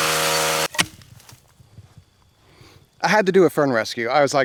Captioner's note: thuds